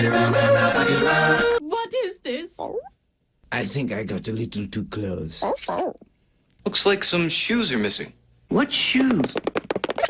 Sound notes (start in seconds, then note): 5.4 Blue barks "uh-huh"; 9.2 shoe pattering sound effect; 9.9 stuttering layering over 3 times and rising in pitch